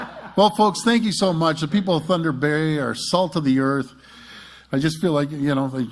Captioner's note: laughter